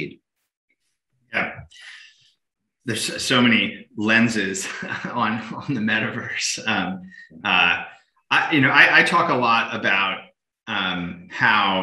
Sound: chuckles

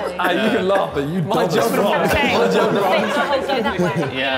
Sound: Sidemen laughing

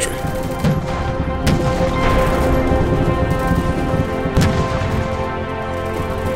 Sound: somber music; guns booming

